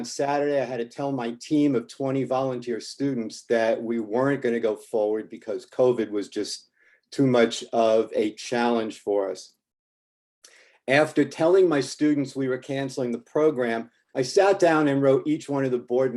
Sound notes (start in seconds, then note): none